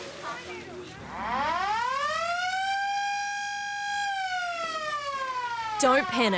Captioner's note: sirens